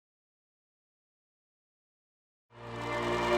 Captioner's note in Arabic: صياح الجماهير